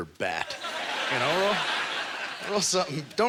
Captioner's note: audience laughter